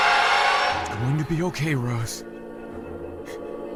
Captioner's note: whispering